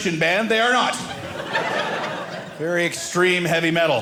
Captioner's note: audience laughing